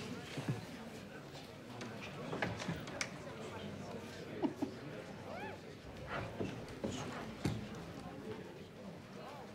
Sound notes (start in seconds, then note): 4.3 laughing